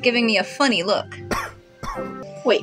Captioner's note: awkward Coughs